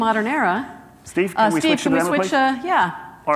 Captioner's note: chattering